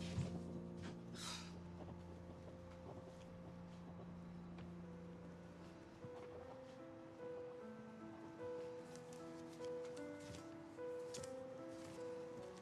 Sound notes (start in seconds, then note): 1.1 Kalani sighs; 4.4 piano music plays